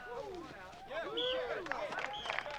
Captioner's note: applause; whistle blows